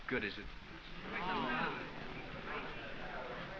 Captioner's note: students murmuring